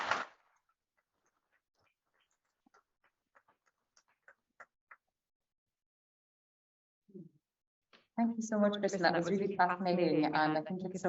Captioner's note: applause